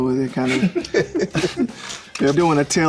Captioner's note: all chuckle